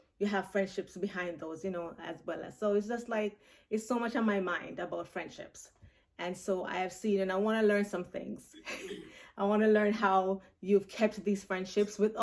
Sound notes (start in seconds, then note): 8.6 laughs